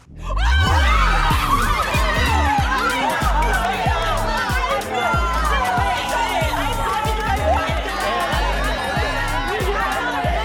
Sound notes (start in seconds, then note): 0.5 crowd screams; 2.5 funky music plays; 5.8 crowd shouting